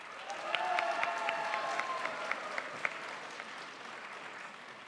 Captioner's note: crowd applauds